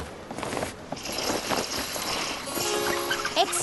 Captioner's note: curtains open